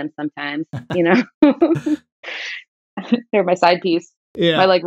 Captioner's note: laughter